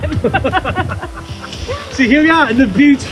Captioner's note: laughing